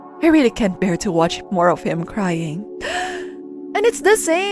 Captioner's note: dramatic gasp